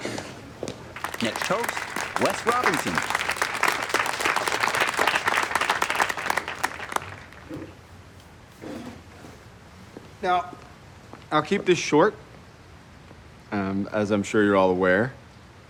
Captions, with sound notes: Next toast, Wes Robinson. [clapping] Now, I'll keep this short. As I'm sure you're all aware,